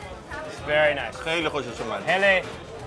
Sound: speaking foreign language; men speaking foreign language

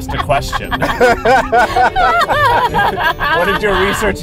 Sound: laughing

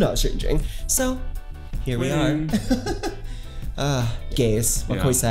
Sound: laughs

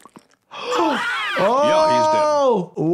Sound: cartoon characters and gasping

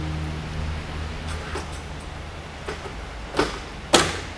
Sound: beam clattering

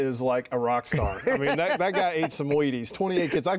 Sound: laughing

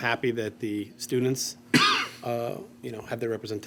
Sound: coughing continues

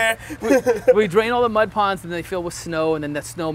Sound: laugh

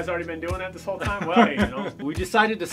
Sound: laughter

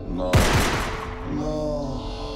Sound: gun shoots

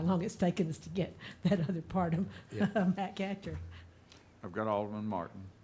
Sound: chuckling

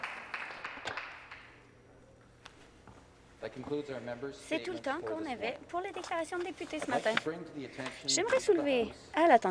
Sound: applause

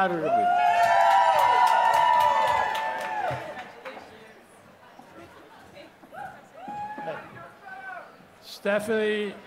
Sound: applause

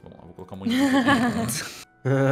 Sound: laugh; laughs

